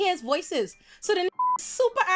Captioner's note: beep